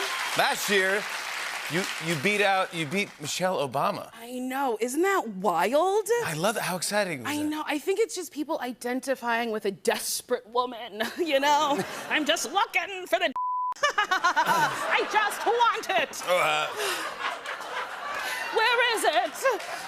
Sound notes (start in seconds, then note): 13.8 laughter; 19.0 laughter continues